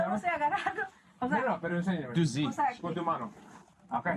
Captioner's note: speaking Spanish